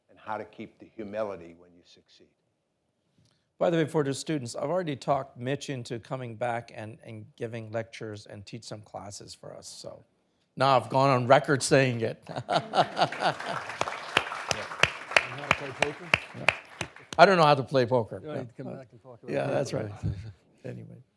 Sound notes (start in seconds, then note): 12.2 laughs; 12.5 audience applauding